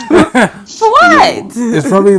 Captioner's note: laughing